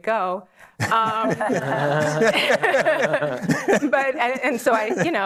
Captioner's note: laughter